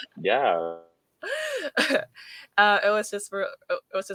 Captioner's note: laughing